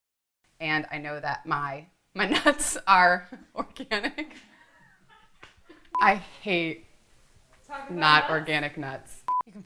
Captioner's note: laughs